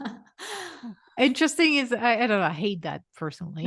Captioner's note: laughs